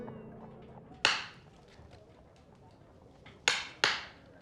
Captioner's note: slow, methodical tapping